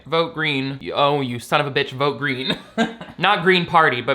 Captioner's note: laughs